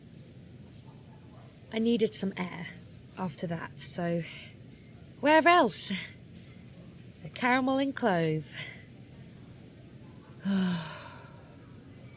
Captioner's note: sighs